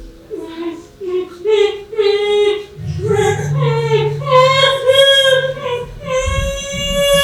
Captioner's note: whimpering